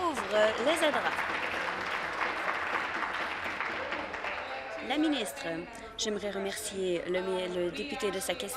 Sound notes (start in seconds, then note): 3.0 applause